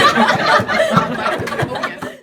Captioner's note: laughter